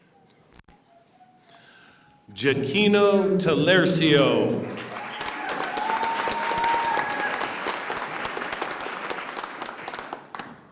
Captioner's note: applause